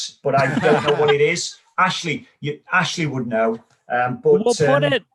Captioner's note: laugh